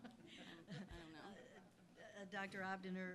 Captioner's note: laugh